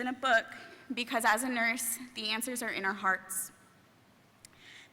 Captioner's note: none